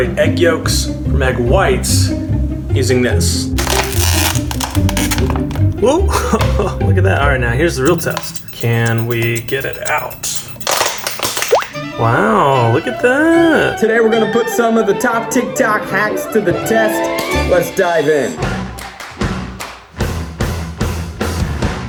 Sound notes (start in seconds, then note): 3.6 plastic bottle sound effect; 10.6 plastic bottle sound effect; 20.0 upbeat rock music